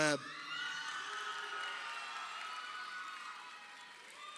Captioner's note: crowd cheering